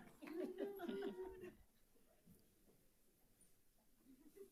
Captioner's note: people chattering; audience laughing